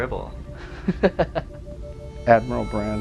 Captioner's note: laughing